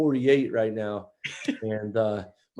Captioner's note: laughs